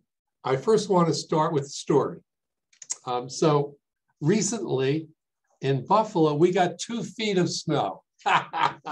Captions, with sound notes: I first wanna start with a story. So recently in Buffalo, we got two feet of snow (laughs)